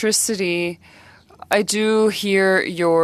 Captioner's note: speaking French